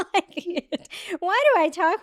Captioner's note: laughing